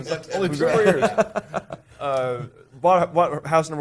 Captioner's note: group chatter